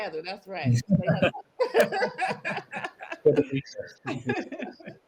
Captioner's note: participants laugh